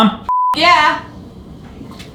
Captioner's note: beep